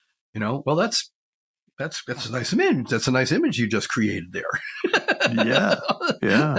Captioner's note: laughs